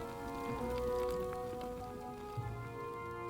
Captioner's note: acid river bubbling